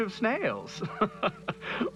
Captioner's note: laughs